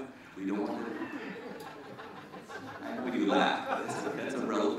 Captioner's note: laughter